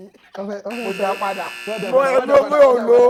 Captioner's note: buzzer pressed